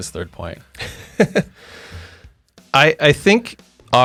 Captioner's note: laughs